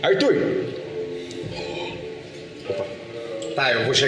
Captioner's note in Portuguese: suspira